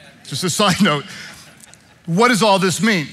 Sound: congregation laughing

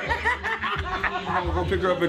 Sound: both laughing

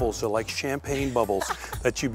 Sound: laughs

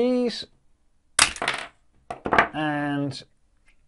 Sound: parts crash on table

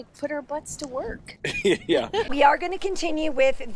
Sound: laughs

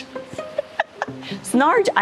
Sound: laughing

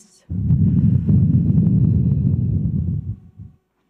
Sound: deep breaths

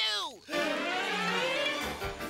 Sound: gasping

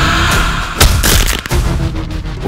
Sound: sound of snapping a neck

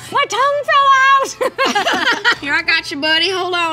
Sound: laughing

